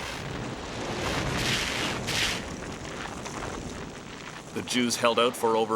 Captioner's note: roaring blaze